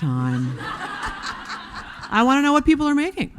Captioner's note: audience laughing